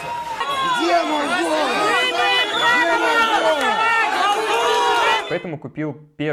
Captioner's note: crowd booing